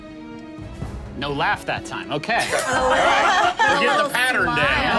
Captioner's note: group laughing